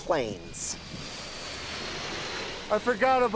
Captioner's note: plane passing